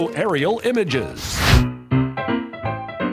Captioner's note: fire swoosh; upbeat piano tunes